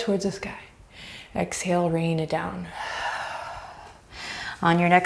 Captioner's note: deep breaths